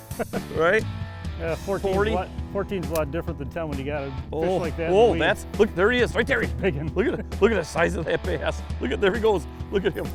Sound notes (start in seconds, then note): 0.0 laughter; 6.5 laughter